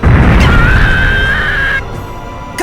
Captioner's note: pained cry